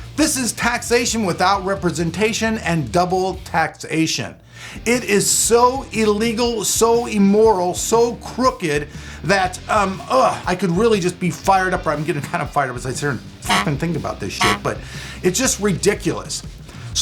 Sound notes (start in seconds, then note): 13.4 buzzing